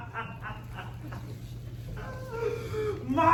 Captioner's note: laughing; inhale